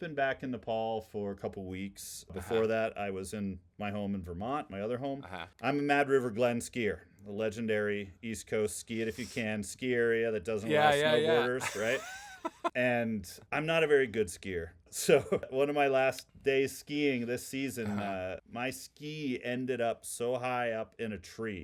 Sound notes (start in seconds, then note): 10.6 laughing